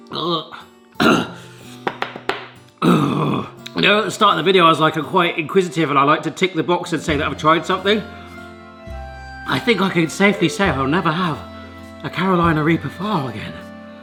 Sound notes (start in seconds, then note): 1.0 gagging; 1.8 hand tapping; 2.8 clearing throat